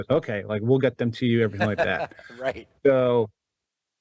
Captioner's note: laughs